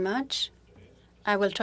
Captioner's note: speaking French